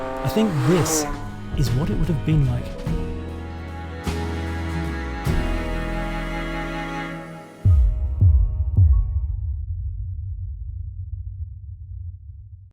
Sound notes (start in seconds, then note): 3.0 cheerful music; 7.7 heart thumping